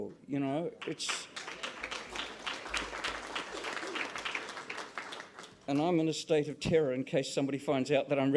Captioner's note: applause